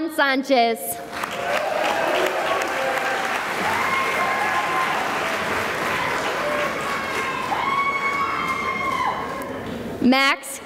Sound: cheering and applause

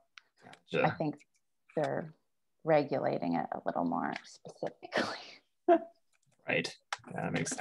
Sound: chuckles

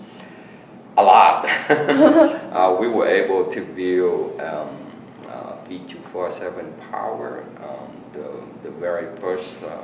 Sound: laugh

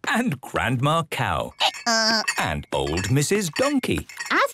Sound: braying

